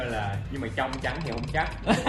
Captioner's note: laugh